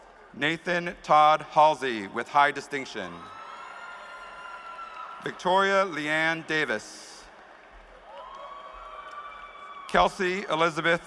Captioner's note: cheers and applause